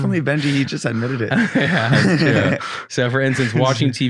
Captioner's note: laughing